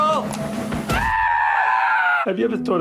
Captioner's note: screaming